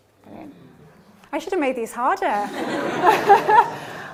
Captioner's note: laughter